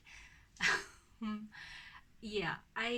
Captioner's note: laughs